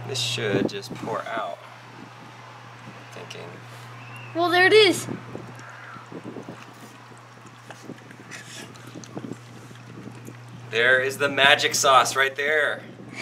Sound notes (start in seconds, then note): 5.2 liquid dripping